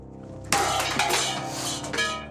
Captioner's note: knocking aside metal cup